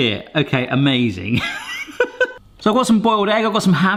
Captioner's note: laughing